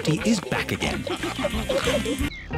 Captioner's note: all giggling and snorting